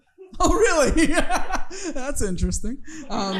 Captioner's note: chuckling